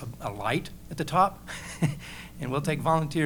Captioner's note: laughs